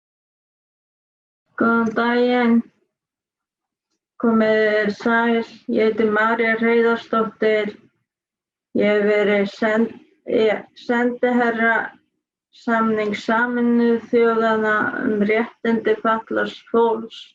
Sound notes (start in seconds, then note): 1.1 Icelandic